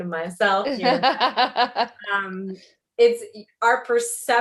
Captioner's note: laughs